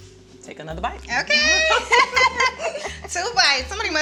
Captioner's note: both laughing